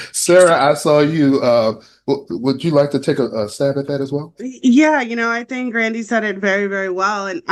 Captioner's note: laughter